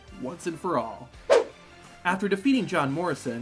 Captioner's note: suspenseful music; screen whooshing